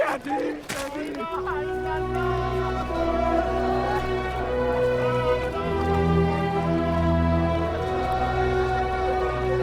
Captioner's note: roar of chatter, cinematic music